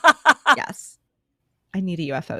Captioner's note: laughing